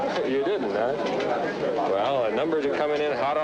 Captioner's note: indistinct background chatter